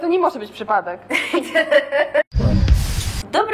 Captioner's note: laughter